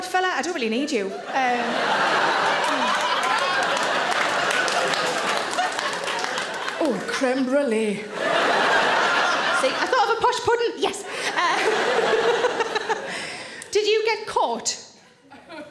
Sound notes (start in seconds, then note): 1.1 audience laughing; 11.1 Sarah laughs